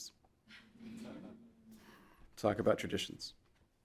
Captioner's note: audience laughing